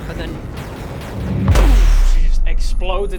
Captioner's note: boooooofh